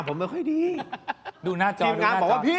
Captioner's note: laughs